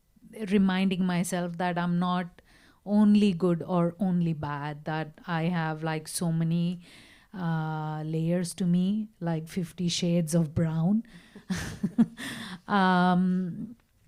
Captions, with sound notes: it's something that I keep reminding myself that I'm not only good or only bad that I have so many layers to me, like 50 shades of brown (laughs)